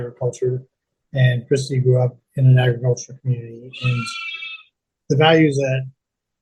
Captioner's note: sheep bleating in background